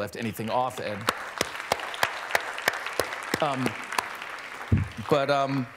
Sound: applause

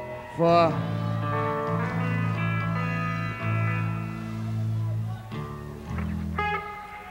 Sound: crowd clamoring; guitar twanging

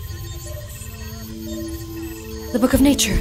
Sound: monitors continue beeping

